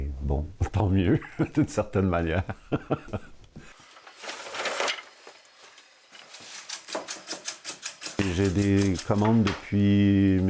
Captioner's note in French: rire